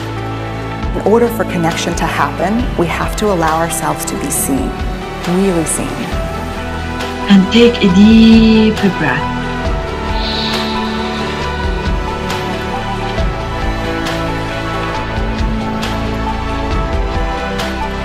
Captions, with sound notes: In order for connection to happen we have to allow ourselves to be seen. Really seen. And take a deep breath (inhales).